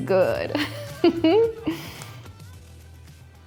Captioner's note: laughs